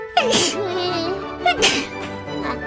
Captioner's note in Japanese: くしゃみ